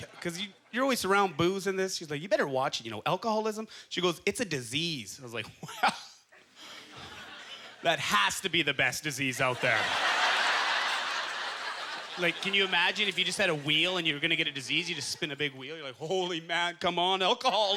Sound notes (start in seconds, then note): 9.4 audience laughter